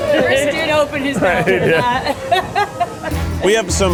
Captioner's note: laughs